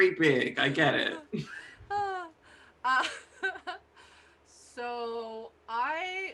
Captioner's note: laughing